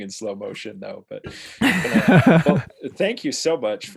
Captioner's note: laughs